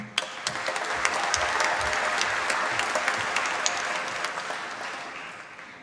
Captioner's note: applause